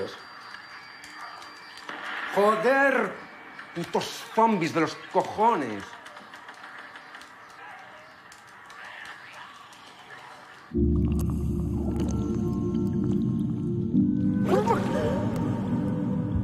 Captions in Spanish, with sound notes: (Disparo) ¡Joder! ¡Putos zombis de los cojones! (Disparos) (Sonido del agua)